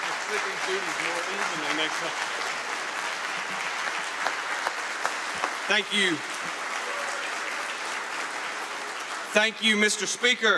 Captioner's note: applause